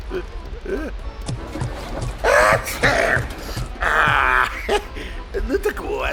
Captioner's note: sneezing